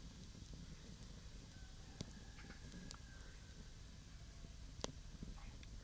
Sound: rooster crows

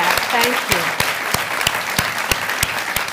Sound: applause

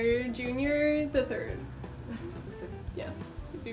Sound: sighs

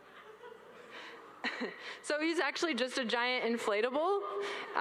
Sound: all laugh

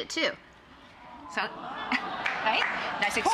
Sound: audience gasps

